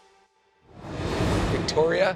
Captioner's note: transition whooshes